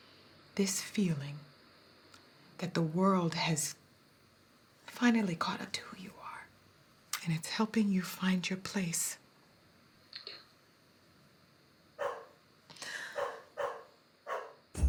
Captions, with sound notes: This feeling, that the world has... finally caught up to who you are, and it's helping you find your place. [tearful] Yeah. -[dog barking in distance] -[gasps]